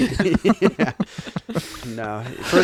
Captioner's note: laughing